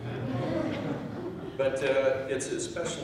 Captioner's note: chuckling